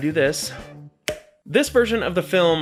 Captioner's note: snap